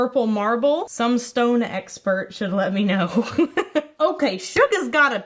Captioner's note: chuckles